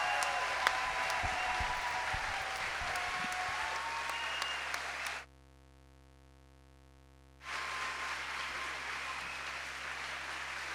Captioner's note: applause